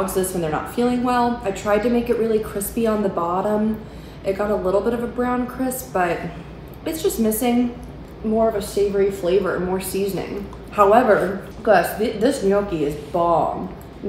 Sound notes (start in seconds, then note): none